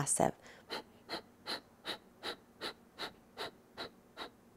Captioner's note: breathing noise